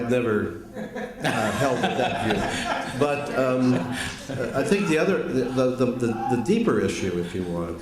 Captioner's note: laughter